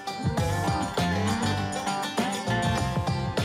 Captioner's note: mooing